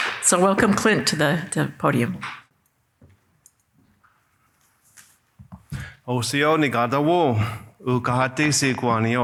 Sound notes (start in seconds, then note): 6.1 non-english speech